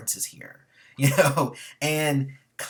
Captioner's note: laughs